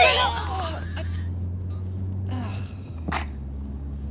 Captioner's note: Oliver retching